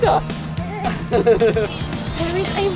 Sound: both laughing

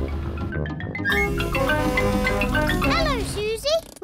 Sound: horn blares

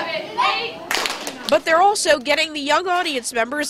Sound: sound of counting

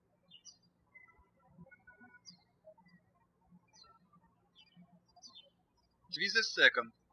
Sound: birds chirping

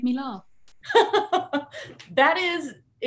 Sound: laughing

